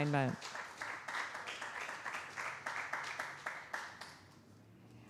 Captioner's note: applause